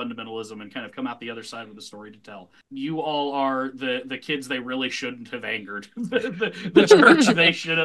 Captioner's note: laughs